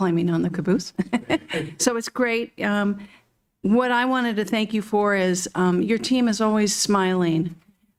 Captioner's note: laughter